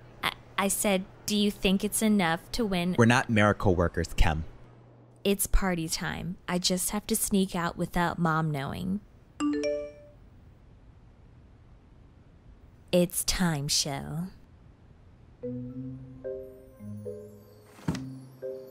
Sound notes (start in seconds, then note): 9.4 phone beeps; 15.4 sneaky music